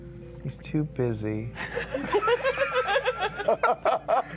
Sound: laughter

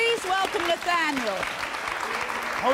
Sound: audience applauding

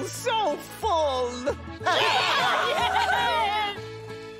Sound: cheering

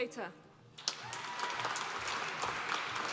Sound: applause

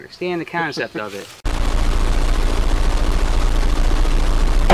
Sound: fuzz

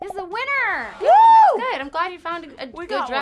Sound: cheering

